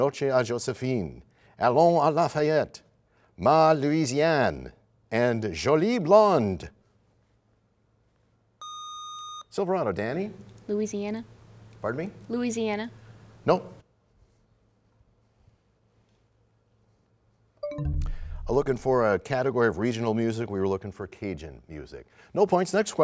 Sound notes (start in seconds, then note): 17.6 bell chimes, time expires